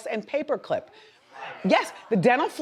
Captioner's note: audience gasps